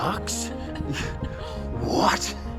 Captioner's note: giggles